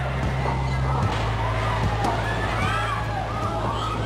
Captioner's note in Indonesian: suara kepanikan